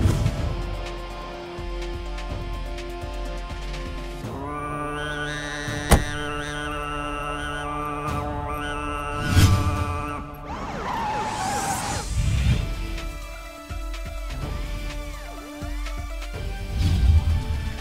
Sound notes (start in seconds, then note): 5.8 Jeep door closes; 10.5 Jeep halts